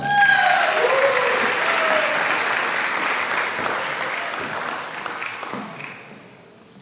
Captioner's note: applause